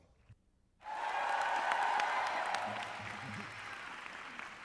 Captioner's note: cheering